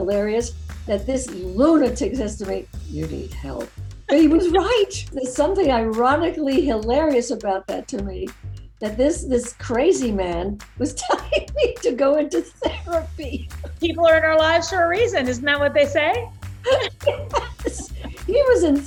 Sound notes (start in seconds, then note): 16.6 laughing